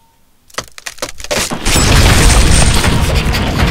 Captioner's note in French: Craquement